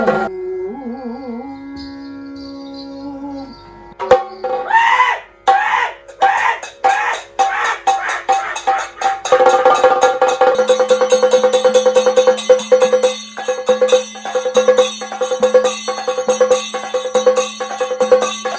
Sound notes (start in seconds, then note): 0.0 drums and clash cymbals; 0.3 man singing; 4.6 screams; 9.3 drums and clash cymbals; 13.4 drums and clash cymbals